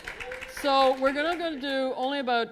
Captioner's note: applause